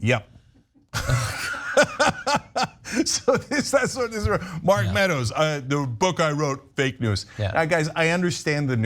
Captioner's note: laugh